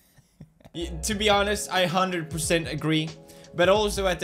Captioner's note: giggle giggle